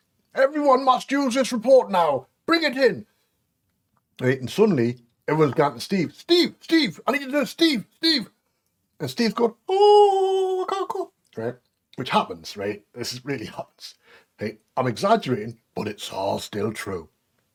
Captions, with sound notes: Every one must use this report now. Bring it in.' Suddenly every one's asking Steve 'Steve! I need you to do this! Steve. Steve!' (High pitched voice)' Oooh. I can't cope!' Which happens. It really happens. I'm exaggerating, but it's all still true.